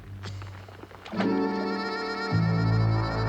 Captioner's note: splashing